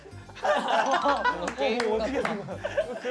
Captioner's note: cracks up from that strange walk